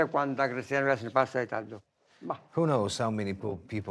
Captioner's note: speaking foreign language